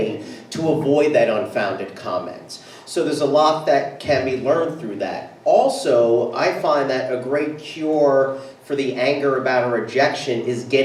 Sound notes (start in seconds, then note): none